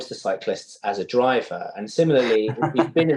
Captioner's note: laughter